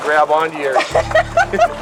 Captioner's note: laughter